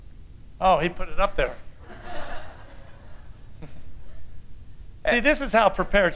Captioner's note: laughter